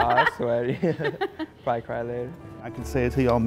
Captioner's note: laughter